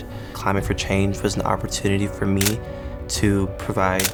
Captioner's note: camera clicks